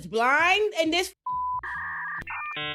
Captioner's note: beep